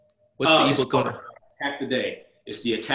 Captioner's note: murmurs